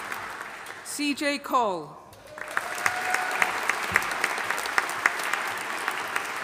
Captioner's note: audience applauding